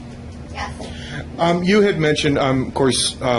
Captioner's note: voiceover